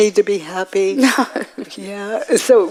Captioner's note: woman in white laughs